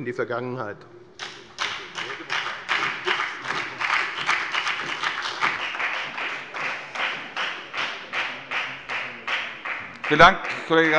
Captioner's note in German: Beifall bei der FDP und bei Abgeordneten der SPD